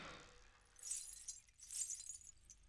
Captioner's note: anklet Jingle